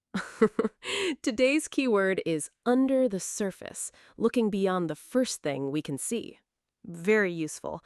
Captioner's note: chuckles